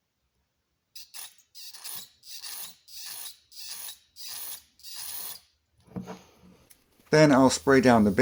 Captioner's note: spraying sounds